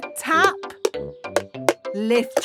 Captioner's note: taping